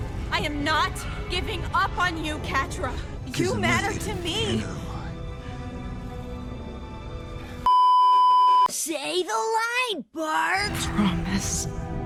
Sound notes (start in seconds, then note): 7.6 beeeeeeeeeeeep